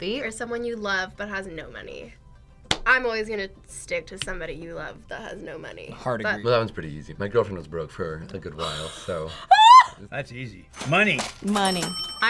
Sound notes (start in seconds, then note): 8.7 laughs